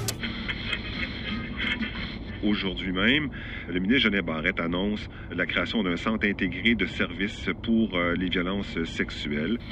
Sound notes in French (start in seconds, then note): 2.5 radio